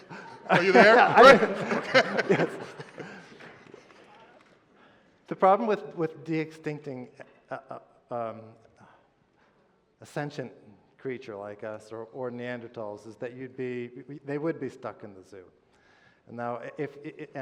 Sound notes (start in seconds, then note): 0.0 laughter; 2.1 laughter